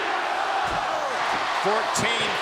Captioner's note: blow thudding